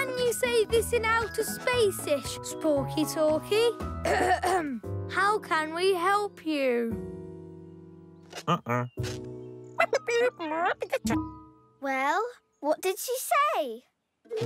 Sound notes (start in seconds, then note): 4.0 clears throat; 8.4 grunting; 9.8 electronic chattering